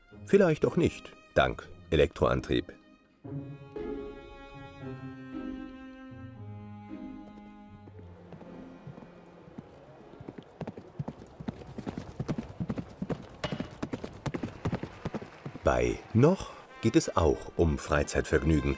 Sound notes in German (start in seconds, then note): 3.5 Ruhige Musik; 10.8 Hufgetrappel